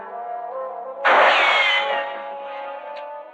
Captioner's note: gunshot